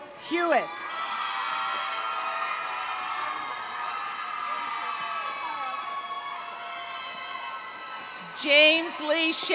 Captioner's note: cheering